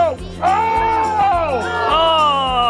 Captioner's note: groaning